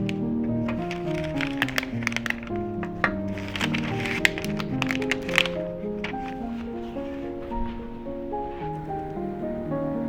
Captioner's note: eating